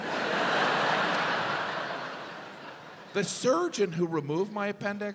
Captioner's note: audience laughs